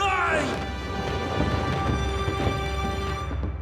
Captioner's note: fabric rustles